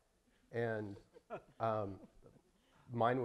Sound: audience chuckling

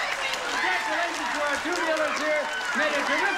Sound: audience applauding

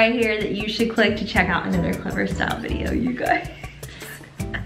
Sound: laughs

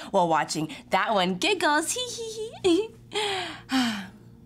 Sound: giggles

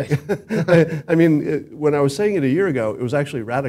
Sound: laugh

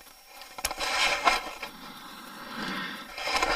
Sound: clicking

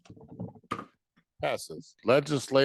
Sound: gavel thudding

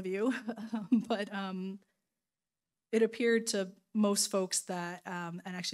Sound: laughing

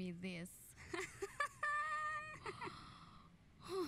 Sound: awkward evil laugh

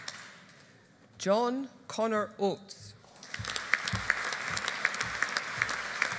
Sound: audience applauding

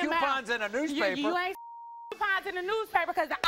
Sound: beep

